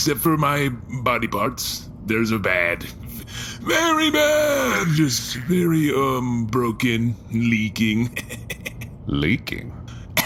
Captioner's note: laughing raspily